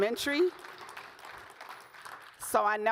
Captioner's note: audience claps